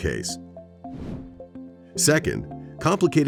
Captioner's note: air whooshes